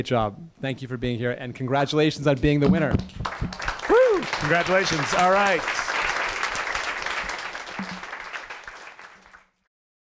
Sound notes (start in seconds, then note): 3.0 applause